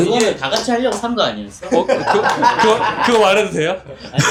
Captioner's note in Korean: 웃음